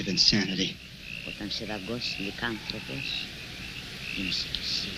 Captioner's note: speaking in foreign language